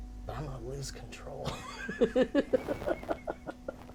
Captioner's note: laughing